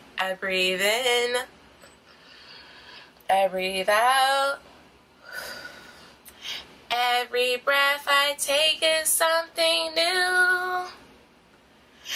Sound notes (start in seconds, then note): 2.3 inhale; 5.2 exhale